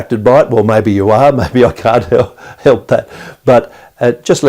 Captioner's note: chuckles